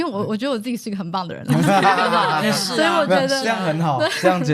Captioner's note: laughs